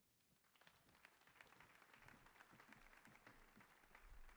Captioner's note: audience applauding